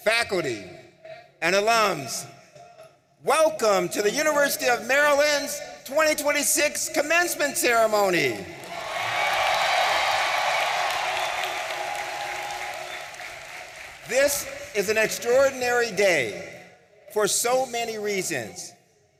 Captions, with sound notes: faculty, and alums. Welcome to the University of Maryland's 2026 commencement ceremony. (audience cheering) This is an extraordinary day for so many reasons.